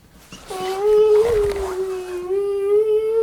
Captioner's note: humming